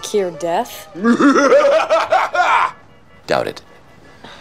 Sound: laughs diabolically

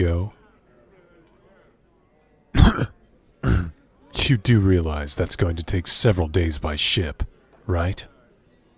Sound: coughs; chokes on drink

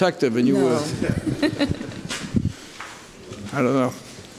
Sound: laughter

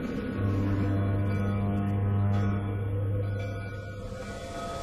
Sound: foghorn blowing

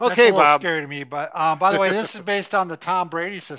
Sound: chuckles

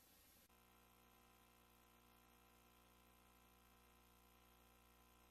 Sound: VHS static

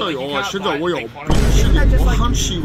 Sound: Vine Boom Sound

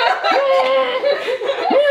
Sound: more groaning

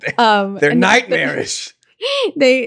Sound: laughing

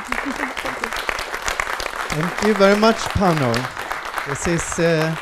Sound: applause

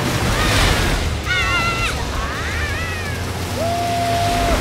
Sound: squeaking

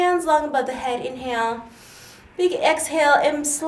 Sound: inhales

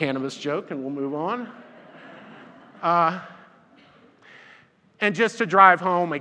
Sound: audience laughs

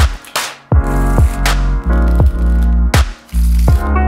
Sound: shuffling

